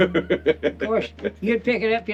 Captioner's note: laughing